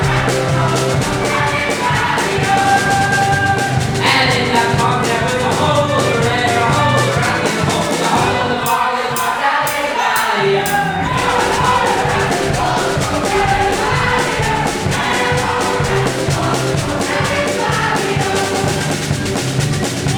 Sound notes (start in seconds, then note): 6.7 audience applauses